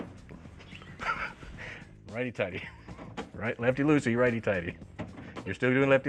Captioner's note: laughter